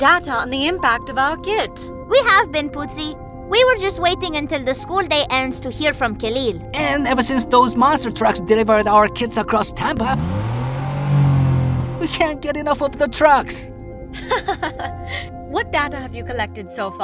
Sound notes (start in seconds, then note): 9.9 engines revving; 14.2 laughs